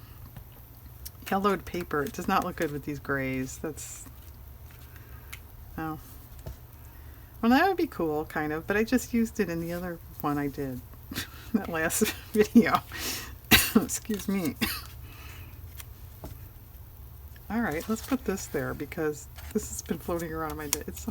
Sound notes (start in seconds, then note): 12.2 laughs